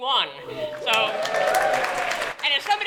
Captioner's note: cheering & Applause